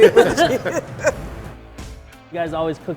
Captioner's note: laughter